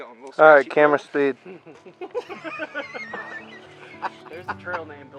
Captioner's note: laughing